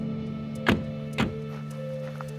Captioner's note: car door closes; footsteps